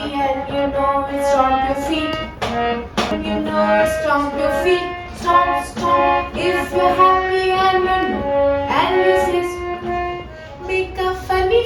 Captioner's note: stomp stomp